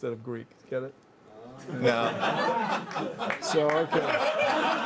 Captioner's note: laughter